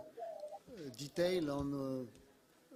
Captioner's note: background audio distortion